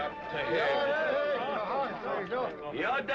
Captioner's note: speaking comanche